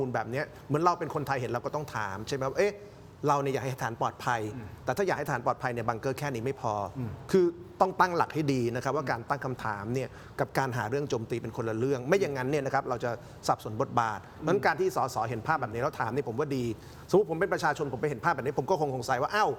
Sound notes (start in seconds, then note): 10.6 clears throat